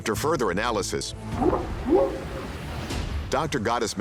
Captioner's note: whooping sound